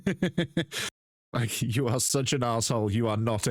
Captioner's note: laughs